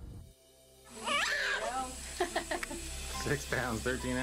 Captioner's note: baby scream